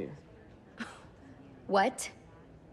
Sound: scoffs

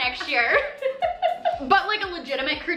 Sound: laughs

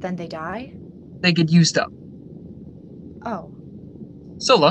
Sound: exhales; exhales

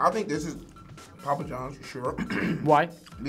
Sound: coughs

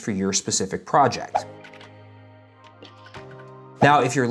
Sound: text whooshing in; slow electronic music

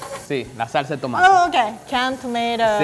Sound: speaking in foreign language

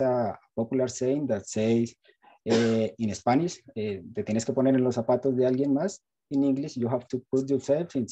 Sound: spanish

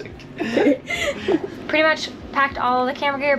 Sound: laughter

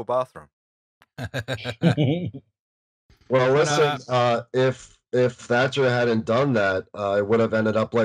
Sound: laughter

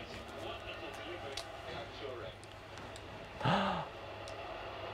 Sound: gasp

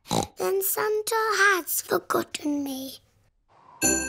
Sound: snorts

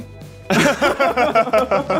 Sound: laughs

